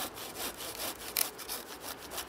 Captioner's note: crack